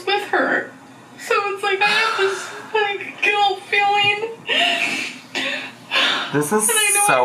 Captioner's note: cries